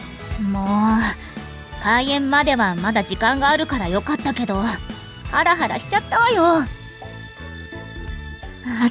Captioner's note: sigh